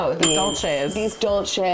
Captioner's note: bell dings